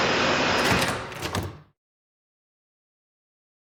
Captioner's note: trapdoor clicking